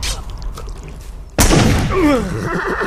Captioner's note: gunshots